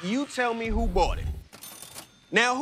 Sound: cash register dings

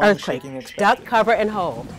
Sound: voiceover

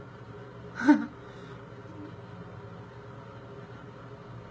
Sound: laughs

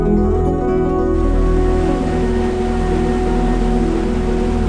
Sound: rushing water

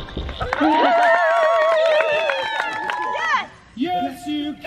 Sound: audience cheers

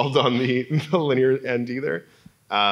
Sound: laugh

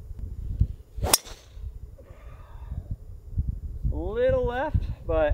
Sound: golf club pings

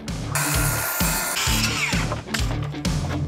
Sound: grinder grinding; upbeat music

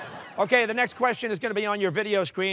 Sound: laughter

